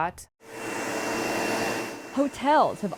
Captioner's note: vaccuum running